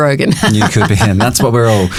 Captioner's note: laughing